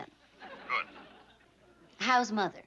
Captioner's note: on phone